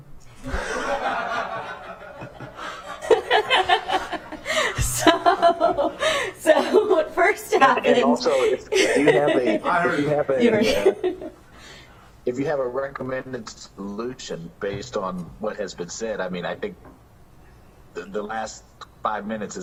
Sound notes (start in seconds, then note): 5.5 laughter